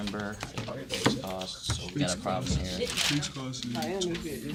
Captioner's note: students murmur